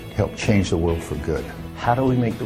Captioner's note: none